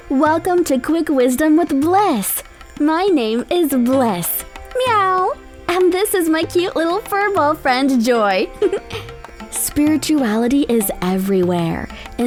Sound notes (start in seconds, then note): 4.7 meow; 8.5 chuckles